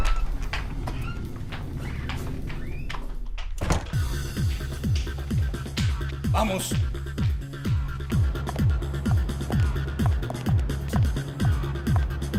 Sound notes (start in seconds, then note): 3.8 upbeat techno music plays; 8.5 street traffic sounds; 8.5 techno music continues